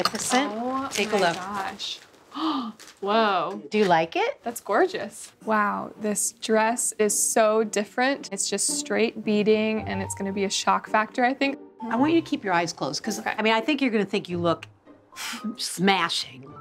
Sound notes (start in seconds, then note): 2.3 gasps